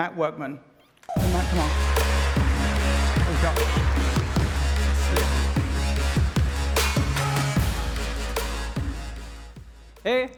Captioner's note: applause